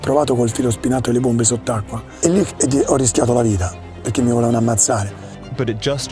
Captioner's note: continues speaking Italian